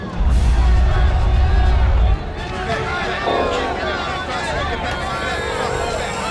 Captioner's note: angry crowd